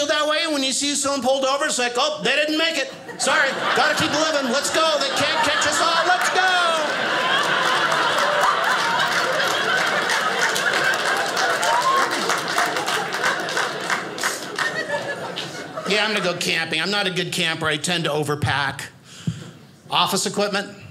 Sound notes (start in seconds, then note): 6.7 audience laughing; 8.1 audience applauding